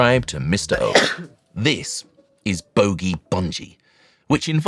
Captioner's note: achoo!